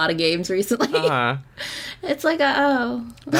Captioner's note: laughs